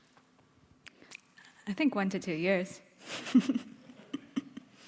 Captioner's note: laughing